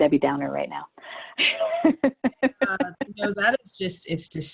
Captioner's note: laughs